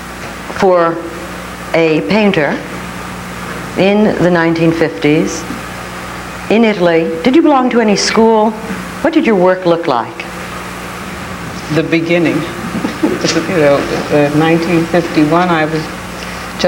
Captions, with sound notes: for a painter in the 1950s in Italy? Did you belong to any school? What did your work look like? - The beginning. (chuckles) You know, 1951, I was